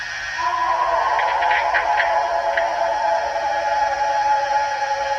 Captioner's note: eerie animal howling continues